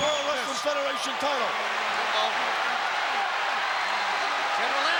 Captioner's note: crowd cheering